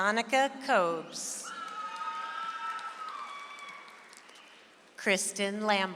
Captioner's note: audience applauds